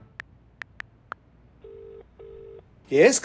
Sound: phone dialling

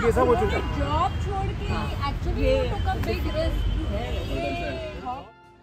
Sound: people talking together

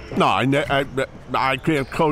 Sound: stammers

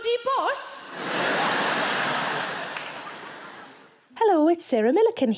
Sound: audience laughs

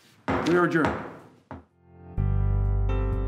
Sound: gavel thuds; lighthearted music

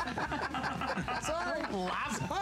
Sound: laughter

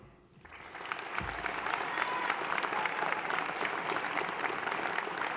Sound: audience applauds and cheers

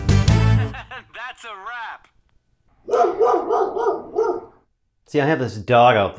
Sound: laughing guy; dog barking

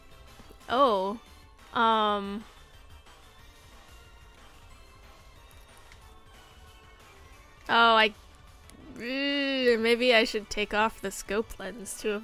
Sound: regret noises

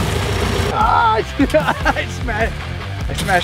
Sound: machine whirring; energetic rock music; groaning

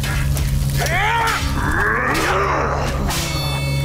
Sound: grunting

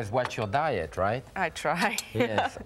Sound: chuckling

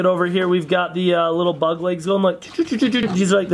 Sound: funny noise

